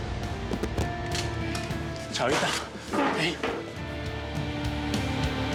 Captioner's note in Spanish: ruido al desplomarse